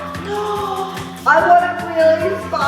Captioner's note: gasp